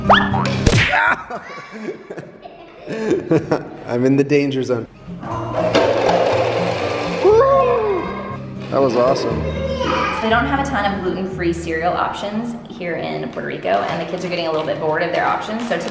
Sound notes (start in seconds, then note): 0.8 exclaiming